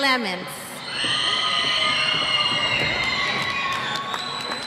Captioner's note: cheers